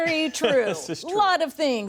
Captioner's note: laughter